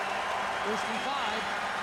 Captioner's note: applause